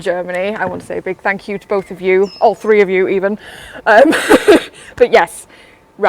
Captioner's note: laughs